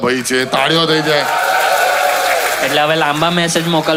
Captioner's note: crowd applauding